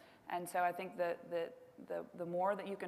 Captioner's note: none